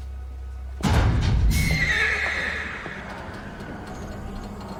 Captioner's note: metal clanks; horse neighs